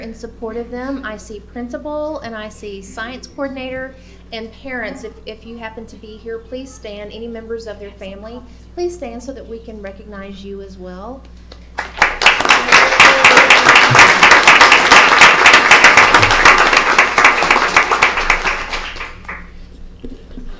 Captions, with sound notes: support of them I see principal and I see science coordinator and parents if you happen to be here please stand any members of their family please stand so that we can recognize you as well (applause)